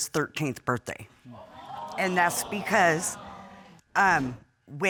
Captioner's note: audience gasps